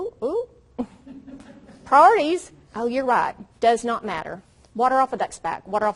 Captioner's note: audience chuckles